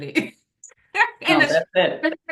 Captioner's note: laughs